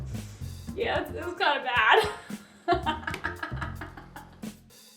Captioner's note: laughs